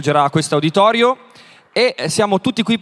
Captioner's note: speaks in Italian – not transcribed